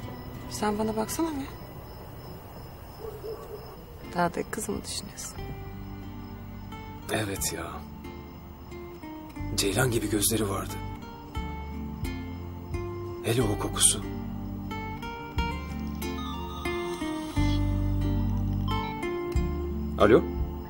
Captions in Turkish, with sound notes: Sen bana baksana bir. Dağdaki kızı mı düşünüyorsun? Evet ya. Ceylan gibi gözleri vardı. Hele o kokusu... [Telefon çalıyor] Alo.